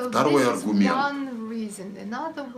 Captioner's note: foreign language